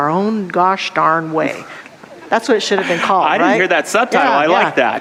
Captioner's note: audience laughter